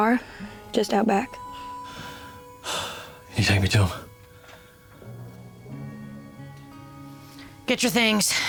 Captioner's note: sighs